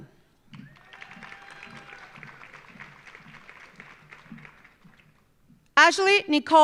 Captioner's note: audience cheering; audience applauding